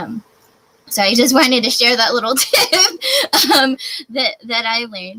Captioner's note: laughs